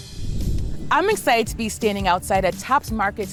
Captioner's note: graphics whooshing